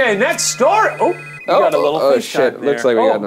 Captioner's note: phone buzzing